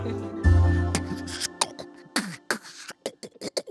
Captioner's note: beatboxing; everyone laughs